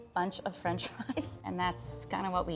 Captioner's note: laughs